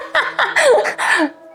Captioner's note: laughing